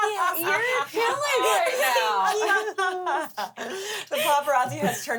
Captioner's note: everyone laughs